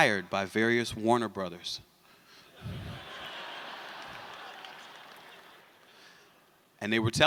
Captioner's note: laughter